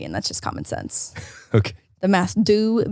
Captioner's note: laughs lightly